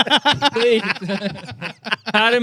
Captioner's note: laughing